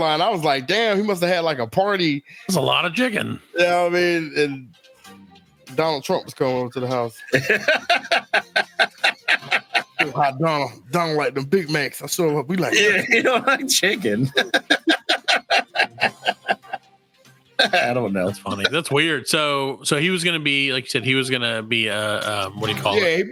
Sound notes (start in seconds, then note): 7.1 laughs; 14.7 laughs